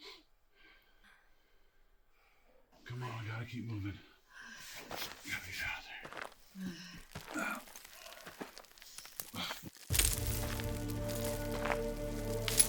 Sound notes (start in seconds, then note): 6.9 footsteps crunching; 9.9 soft tense music